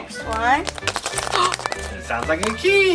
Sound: assistant rattles egg and gasps

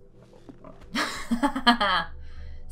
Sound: laughs

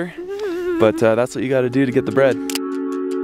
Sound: woman shivering

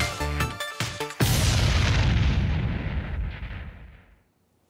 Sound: explosion

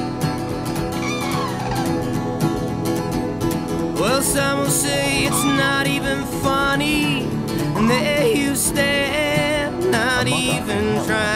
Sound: crane calls in background

